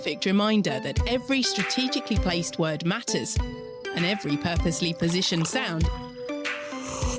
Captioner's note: pouring and sipping sound